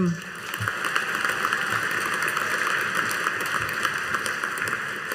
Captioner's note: audience applauding